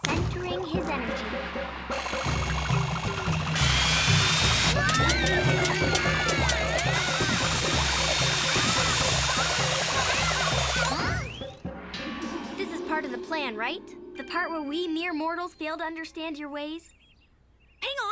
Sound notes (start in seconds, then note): 2.0 gong bongs; 2.8 dramatic music; 2.8 nun chucks whirring; 4.8 pair screaming; 4.9 burrs landing; 9.7 distant shouting; 9.7 nun chucks whirring loudly